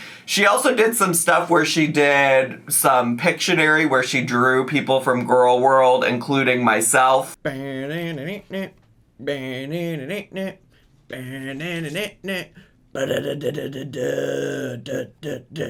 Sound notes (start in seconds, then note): 9.1 vocalizes